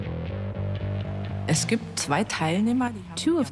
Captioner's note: in German dubbed in English